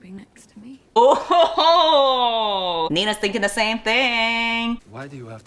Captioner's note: laughs